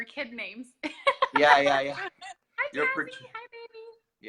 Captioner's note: laughs